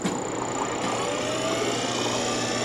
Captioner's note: whirring sound